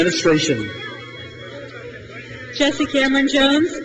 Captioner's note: crowd cheers